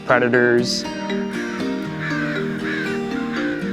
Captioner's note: cawing